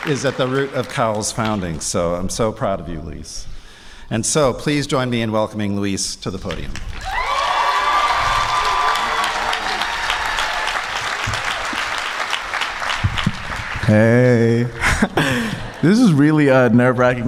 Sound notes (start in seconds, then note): 6.8 applause